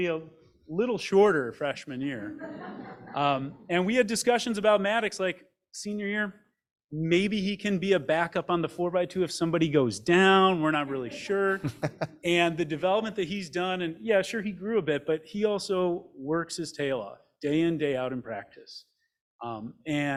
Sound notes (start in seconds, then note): 2.2 group laughs; 10.5 laughs